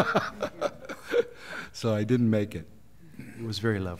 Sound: laughter

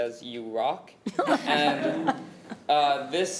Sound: committee chuckling

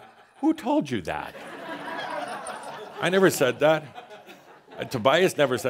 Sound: laughter

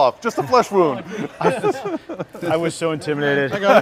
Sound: men chuckle

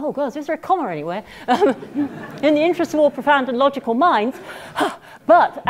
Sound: laugh

